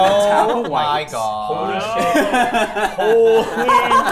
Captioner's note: players laughing